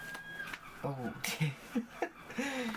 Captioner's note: laughing